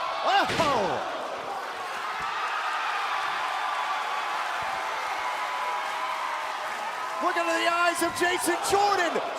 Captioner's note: crowd cheering